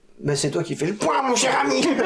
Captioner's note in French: Rires; voix du professeur